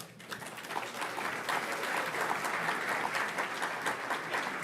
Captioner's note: audience applauds